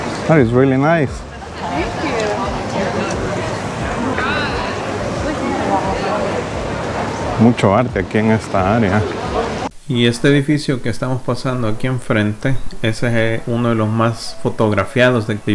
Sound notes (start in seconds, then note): 1.2 laugh